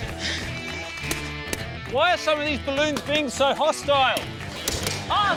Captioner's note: pop!